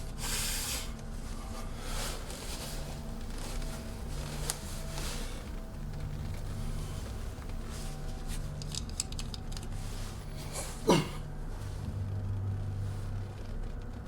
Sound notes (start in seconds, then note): 0.1 breathes heavily; 8.5 cap rattles